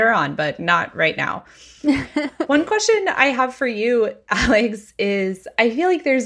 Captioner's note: laughing